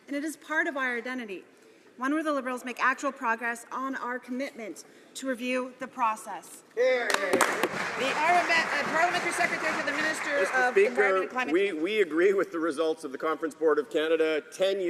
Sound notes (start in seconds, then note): 10.2 some Applause